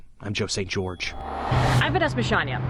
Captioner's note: whooshing